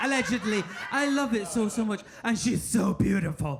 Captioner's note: audience laughing